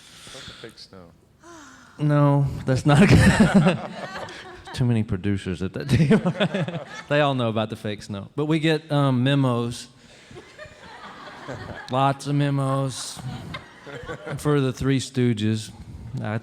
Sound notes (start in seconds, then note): 3.0 chuckling; 10.4 audience laughing